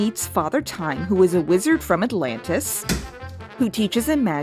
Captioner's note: thump